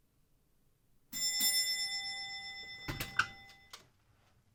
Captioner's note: doorbell rings